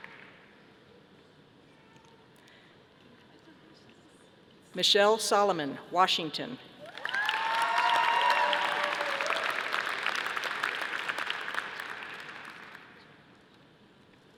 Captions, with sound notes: Michelle Salomon, Washington. (audience applauding)